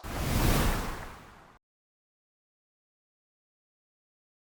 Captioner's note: air whooshing